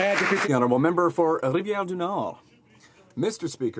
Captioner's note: some Applause